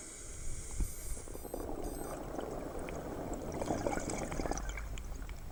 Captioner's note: air hissing; water bubbling